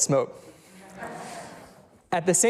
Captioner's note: audience laughs